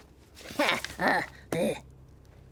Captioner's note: grunts